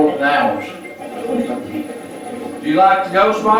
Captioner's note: static playback transmitting